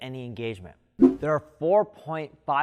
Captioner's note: air swish